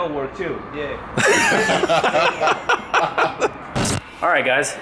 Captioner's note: laughing